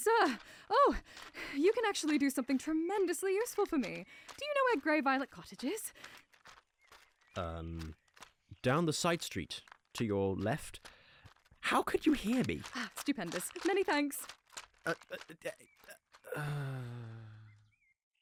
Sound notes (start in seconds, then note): 14.0 sable's footsteps fade out; 15.0 narrator stutters, sighs